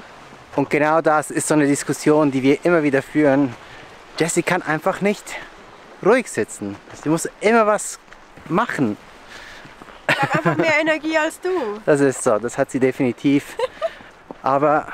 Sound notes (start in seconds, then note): 10.0 laughs